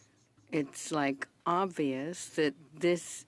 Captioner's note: speaking French